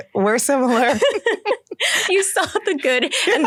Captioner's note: laughter